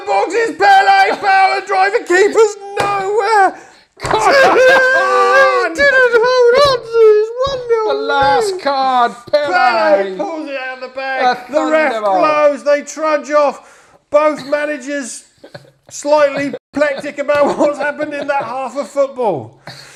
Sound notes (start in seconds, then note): 4.0 sobbing